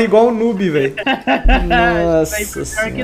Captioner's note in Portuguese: rindo